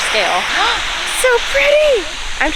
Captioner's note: gasps